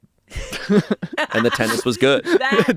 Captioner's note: everyone laughs